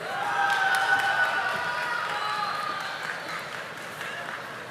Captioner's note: audience applauding